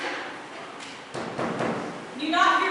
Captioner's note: ORESTES knocks again